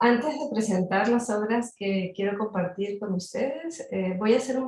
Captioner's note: speaking in Spanish